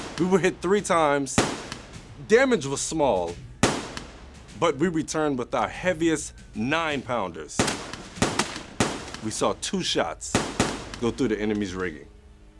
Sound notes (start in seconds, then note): 7.5 gunfire banging